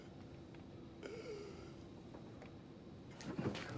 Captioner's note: Gordon gasps